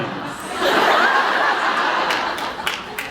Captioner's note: laughs